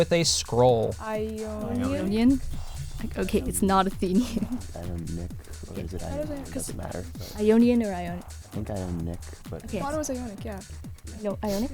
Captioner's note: wispering